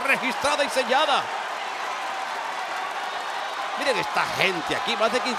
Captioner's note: applause